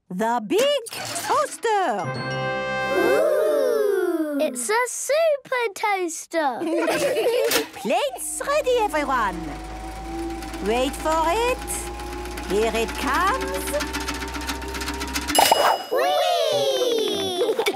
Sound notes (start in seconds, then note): 7.5 clicks; 10.9 super toaster vibrating; 13.1 pings